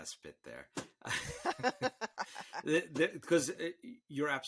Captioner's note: all laughing